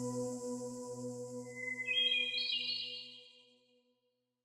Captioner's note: hermit thrush call